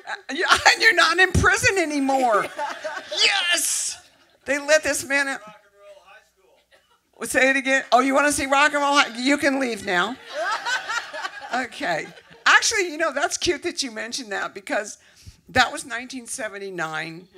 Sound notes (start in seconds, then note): 10.2 laughter